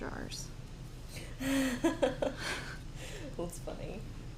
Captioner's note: laughs